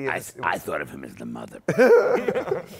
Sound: laughter

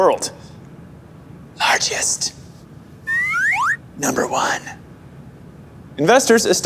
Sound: whispering

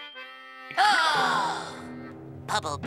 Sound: gasps

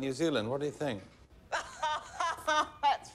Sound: laughing

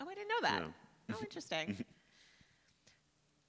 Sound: chuckles

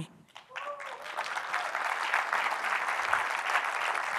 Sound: applause

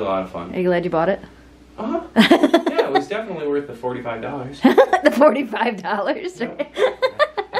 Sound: laughs

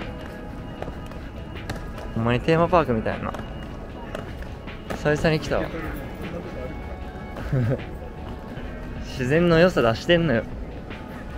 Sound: announcement sound

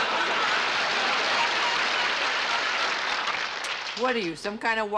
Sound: applause

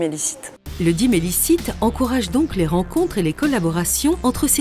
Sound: voice-over

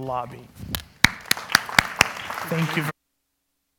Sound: applause

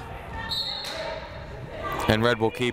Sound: whistle blowing

